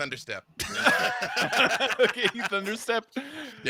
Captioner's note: laughing